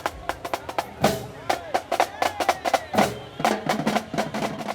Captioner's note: crowd cheering